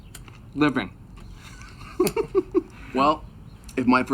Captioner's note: laughing